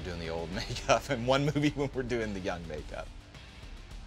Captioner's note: laughs